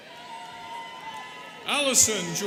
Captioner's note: students cheering